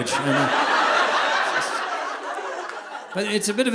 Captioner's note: audience laughing